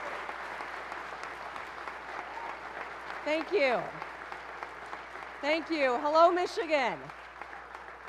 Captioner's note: cheers and applause